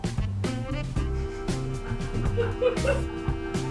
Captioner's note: laughing in the background